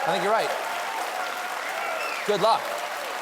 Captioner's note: cheers and applause